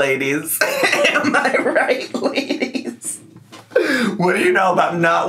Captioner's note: laughs